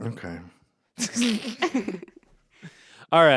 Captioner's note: everyone laughs